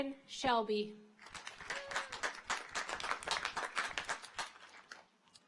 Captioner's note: audience applauds